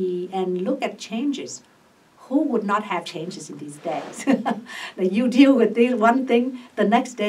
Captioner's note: laughs